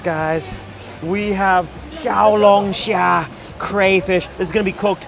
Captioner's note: foreign language